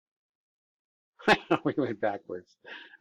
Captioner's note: laughs